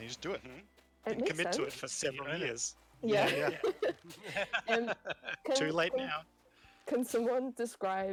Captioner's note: laughter